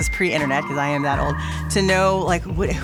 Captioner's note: dial up internet connection whirring